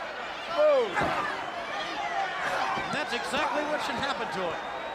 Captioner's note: crowd chatter